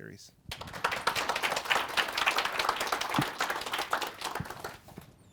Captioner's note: audience applauding